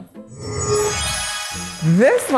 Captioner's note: magic wand swooshes